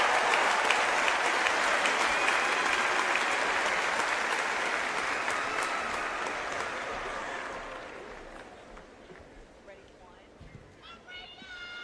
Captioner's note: applause